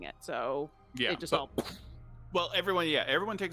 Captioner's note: explodes